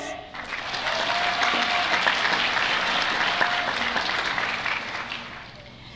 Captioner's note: applause